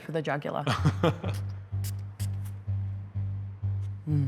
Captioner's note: chuckles